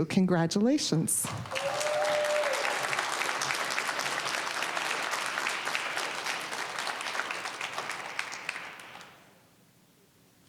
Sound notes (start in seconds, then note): 1.2 applause, cheering; 5.6 applause